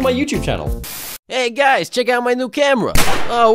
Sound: gunshot

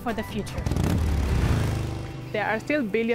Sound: motorcycle revving

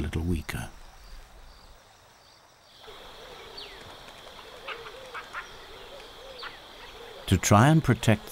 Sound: birds chirping

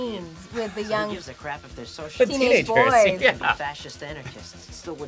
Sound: laughs

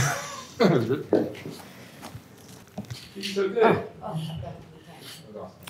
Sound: chuckles

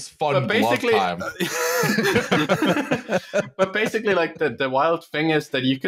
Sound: laughter

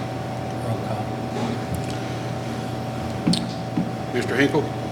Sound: faintly speaking

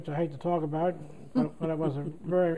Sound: laughter

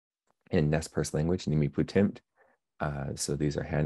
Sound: speaking Nez Perce; speaking Nez Perce

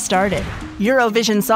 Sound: air whooshing

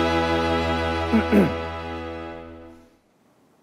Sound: cough

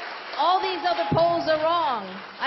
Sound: applause

